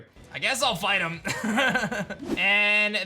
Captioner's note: laughs